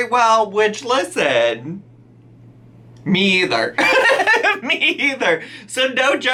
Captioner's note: laughs